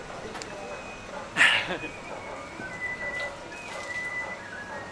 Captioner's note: laughs